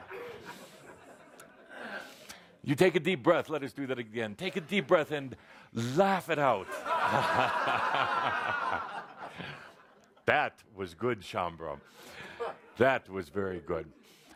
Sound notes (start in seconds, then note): 0.0 audience laughs; 6.7 audience laughs louder, Kuthumi chuckles